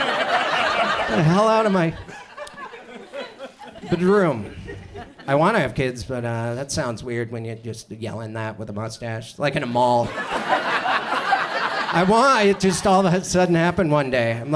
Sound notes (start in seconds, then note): 0.0 audience laughs; 9.8 audience laughs